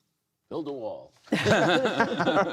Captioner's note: laughter